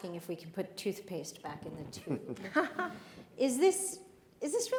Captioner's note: panelists chuckle